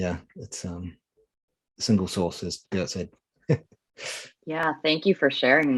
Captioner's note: chuckling